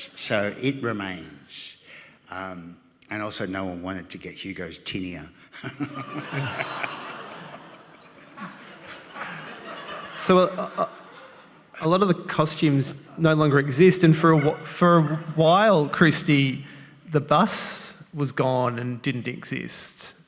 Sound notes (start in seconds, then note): 7.1 audience laughing